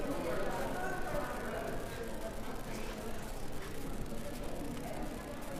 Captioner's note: visitors chattering indistinctly